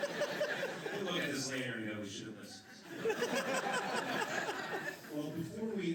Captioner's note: laughter; laughter